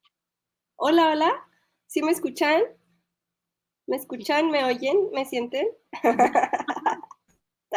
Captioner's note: laughs